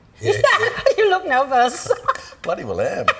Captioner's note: laughs